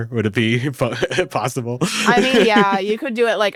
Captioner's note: laughs